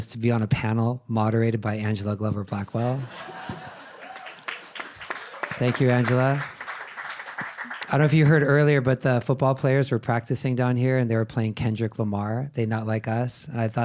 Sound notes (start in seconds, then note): 2.8 audience laughing and clapping